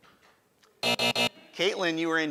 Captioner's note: end time buzz sound